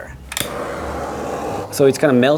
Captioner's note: flame hissing